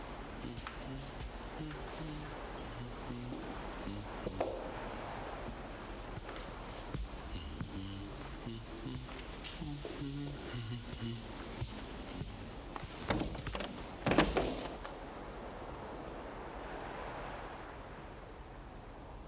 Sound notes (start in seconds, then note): 1.6 man humming